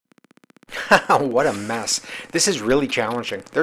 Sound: laughs

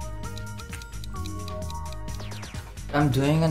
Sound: ticking

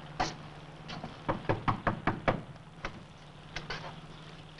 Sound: knocking

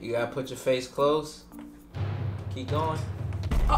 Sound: dramatic bangs

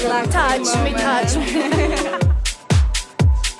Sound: laughs; upbeat music

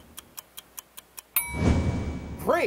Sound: clock ticking

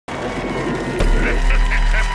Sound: thunder rolling; audience cheering; creepy laughing; haunting organ music

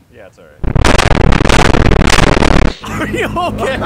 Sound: static

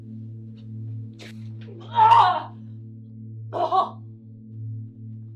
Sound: dramatic music; Fiona vomiting

